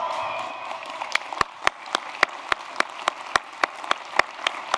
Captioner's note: applause